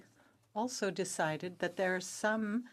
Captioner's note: speaking French